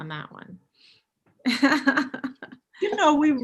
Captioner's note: chuckling